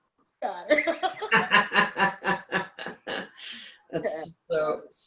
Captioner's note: laughs